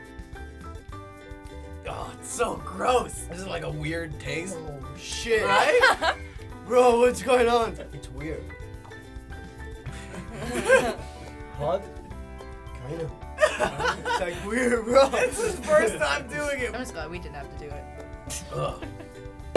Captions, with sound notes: - Ugh, it's so gross! This is, like, a weird taste. - Oh shit! - (laughing) - Bro, what's going on? That's weird. - (laughter) - Hot? - Ew. - (laughing) - It's real gross! - It's his first time doing it. - That was fun. We didn't have to do it. - Ugh.